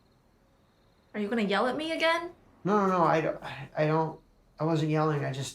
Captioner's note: sighs